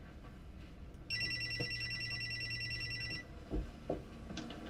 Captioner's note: cellphone ringing